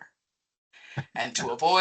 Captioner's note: chuckling